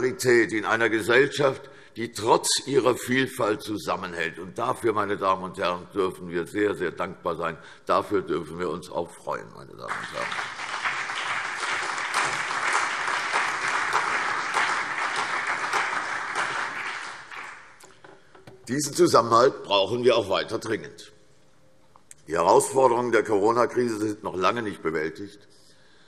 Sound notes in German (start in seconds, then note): 9.8 Beifall CDU, BÜNDNIS 90/DIE GRÜNEN, SPD, Freie Demokraten und AfD